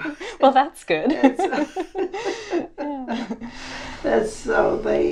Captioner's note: laughs